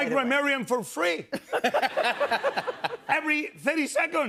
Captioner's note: laughter